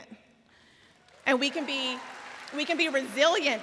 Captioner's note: audience cheering